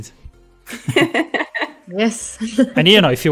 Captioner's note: laughs